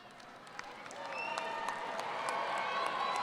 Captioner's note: cheering